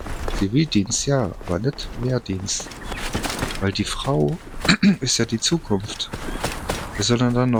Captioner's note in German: räuspern